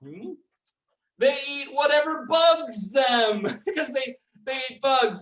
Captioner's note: laughs